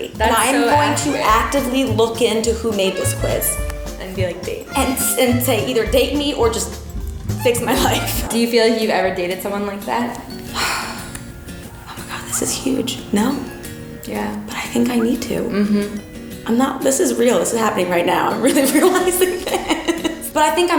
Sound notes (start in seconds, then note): 10.5 sighs; 18.5 laughs